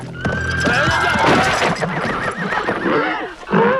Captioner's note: horses neighing